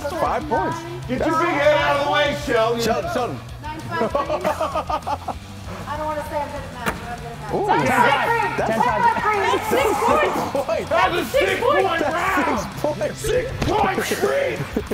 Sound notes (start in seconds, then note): 3.8 laugh